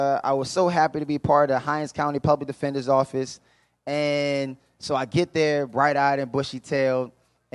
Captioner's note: none